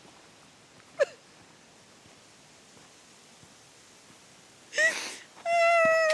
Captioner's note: crying loudly